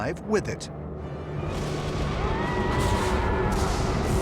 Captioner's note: lightning crashing